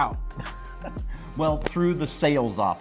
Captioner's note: laughs